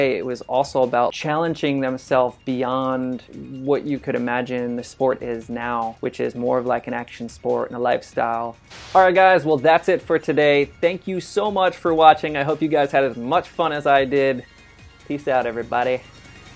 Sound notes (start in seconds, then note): 8.7 static noise